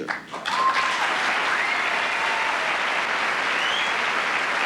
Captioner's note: cheers and applause